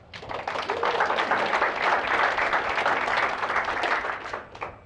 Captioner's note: applause